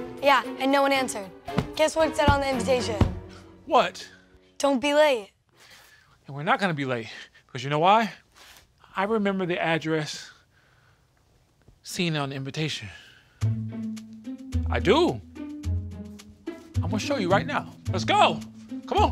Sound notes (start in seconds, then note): 1.5 pillows thud